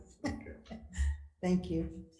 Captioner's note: laughs